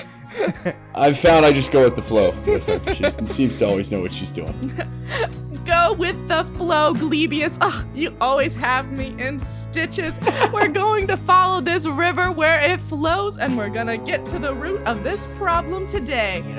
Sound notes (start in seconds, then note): 5.6 laughs; 10.2 laughter